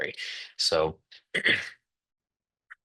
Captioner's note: interpreter clears throat